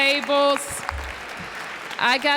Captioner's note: applause